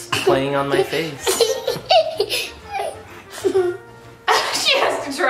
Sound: laughing

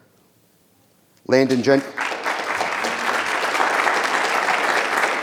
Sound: audience applause

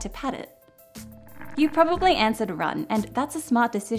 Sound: creature growling

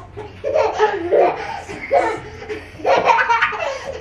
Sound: kids laughing

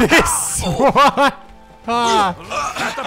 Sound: laughing

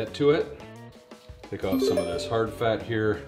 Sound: message tinkles

